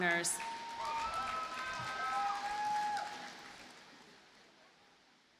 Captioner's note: audience cheers and applauds